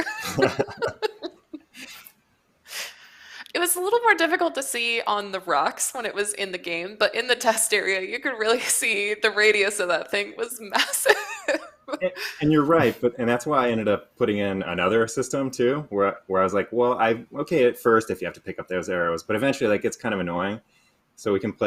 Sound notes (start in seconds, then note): 0.0 laughter; 10.7 laughs